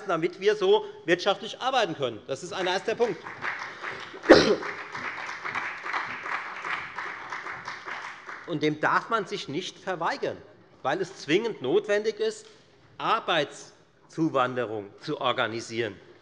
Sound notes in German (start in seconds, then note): 5.9 Beifall bei der FDP und bei Abgeordneten der SPD